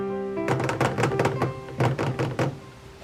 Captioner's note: tapping of joy